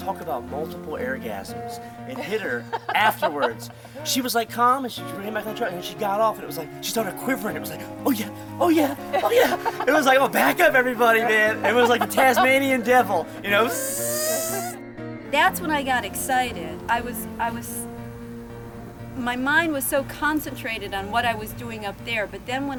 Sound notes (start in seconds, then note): 14.4 spinning noise